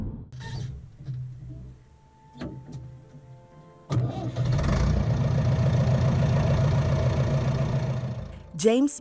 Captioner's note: sound of an engine starting